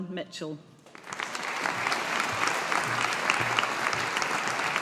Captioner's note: audience applauding